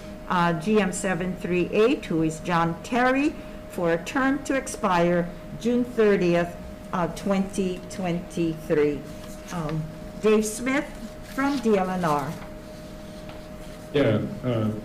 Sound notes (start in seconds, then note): none